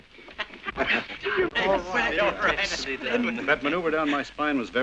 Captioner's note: muttering excitedly